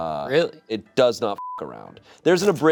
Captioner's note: beep